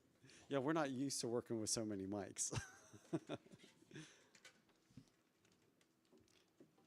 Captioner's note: laughs